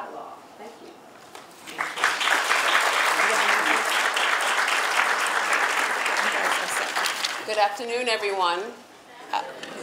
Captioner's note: audience applause